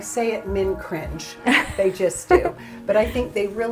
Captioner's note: laughs